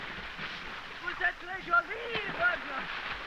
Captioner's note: speaking french